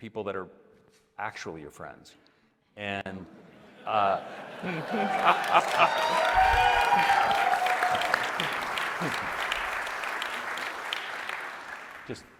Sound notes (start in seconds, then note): 3.8 audience laughing; 5.6 audience cheering; 8.6 audience applauding